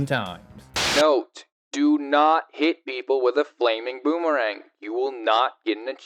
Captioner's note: Static